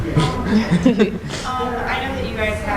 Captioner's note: laughter